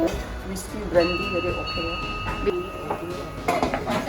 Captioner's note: Cantonese; Cantonese